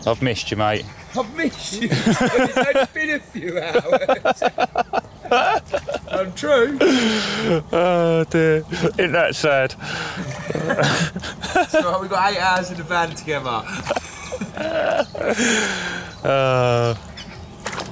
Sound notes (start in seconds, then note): 1.8 laughing loudly; 9.8 laughing loudly